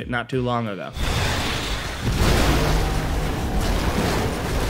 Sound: explosion rumbling

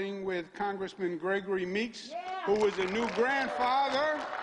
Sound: applause

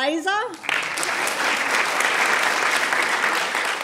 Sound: applause

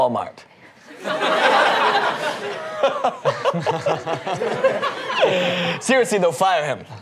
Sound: laughing

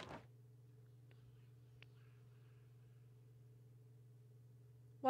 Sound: low Whispering Sounds

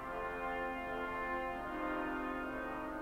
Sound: none

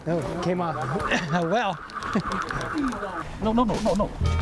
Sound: laughs

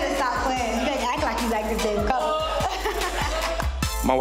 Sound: laughing

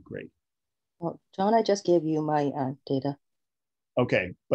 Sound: soft Voice

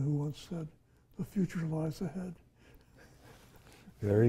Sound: chuckles

